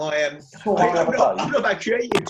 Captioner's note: murmurs; laughing